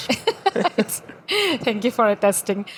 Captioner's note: laughing